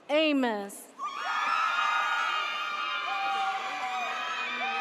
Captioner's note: audience cheers